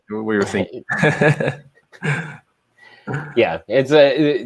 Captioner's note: laughs